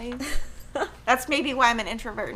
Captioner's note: chuckles